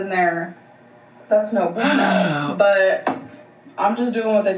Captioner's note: sighs